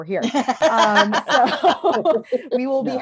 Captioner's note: laughter